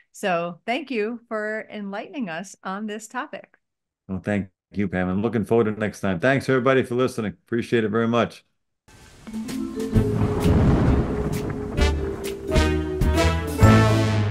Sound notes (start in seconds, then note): 9.8 thunder roars; 11.3 whimsical music